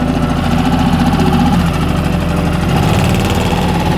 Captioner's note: motor rumbling